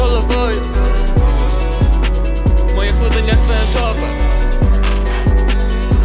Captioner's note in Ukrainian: М-м